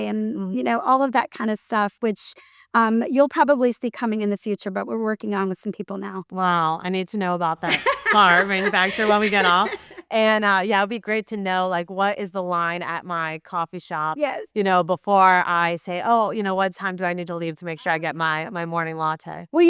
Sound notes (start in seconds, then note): 7.7 laughs